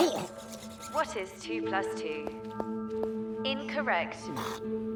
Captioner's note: Ryland gnashes teeth